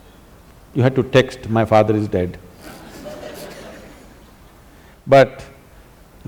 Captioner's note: laughter